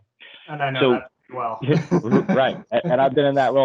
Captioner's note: giggles